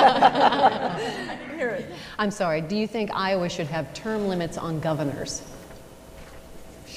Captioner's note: laughter